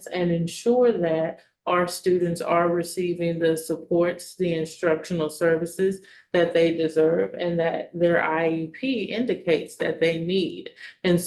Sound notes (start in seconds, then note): none